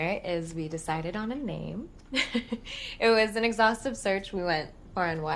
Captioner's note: chuckling